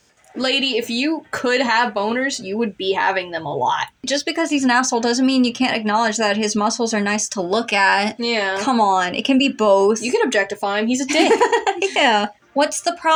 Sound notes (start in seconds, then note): 11.0 chuckle; 11.0 laugh